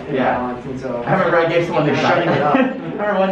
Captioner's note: mummers; laughs